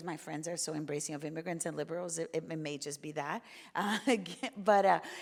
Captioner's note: chuckles